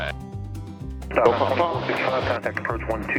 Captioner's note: loud statics